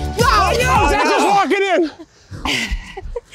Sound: yelling; laughing

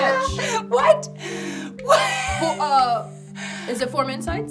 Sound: laughing

